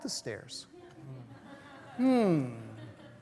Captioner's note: laughter